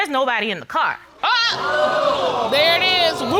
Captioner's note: all exclaim